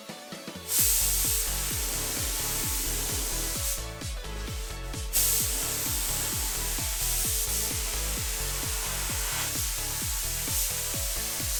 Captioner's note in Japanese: 塗装音